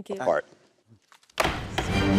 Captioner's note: gavel strikes